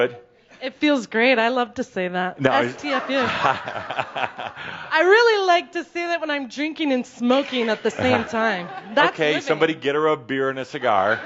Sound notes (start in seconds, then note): 3.1 Adamus chuckles